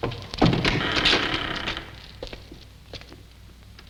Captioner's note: door creaking